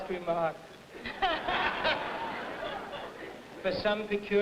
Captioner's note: audience laughing